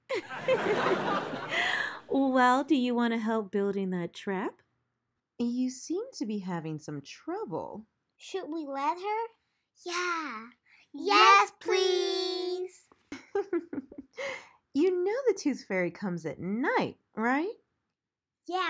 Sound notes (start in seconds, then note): 0.1 audience laughs; 13.1 mommy giggles